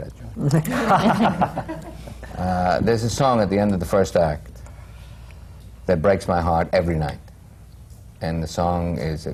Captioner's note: laughter